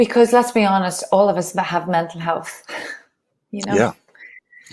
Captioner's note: laughs